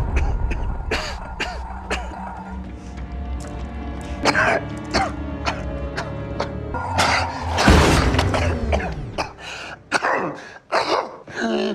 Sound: pathetic coughing sounds

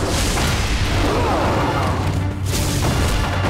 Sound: grunting

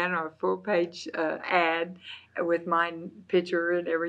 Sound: laughs

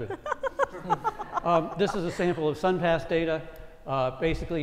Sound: laugh

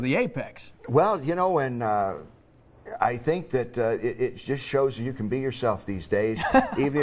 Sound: laughter

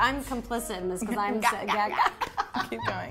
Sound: laughing

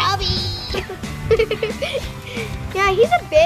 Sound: laughs

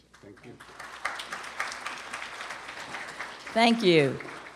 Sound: applause

